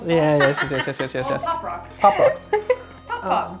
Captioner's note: laughing